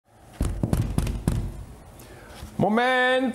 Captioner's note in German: Türklopfen